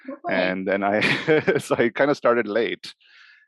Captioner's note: laughs